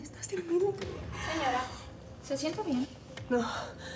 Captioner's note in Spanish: habla entre dientes